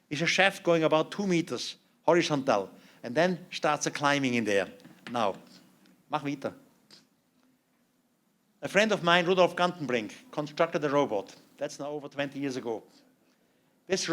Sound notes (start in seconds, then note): 6.1 non-english speech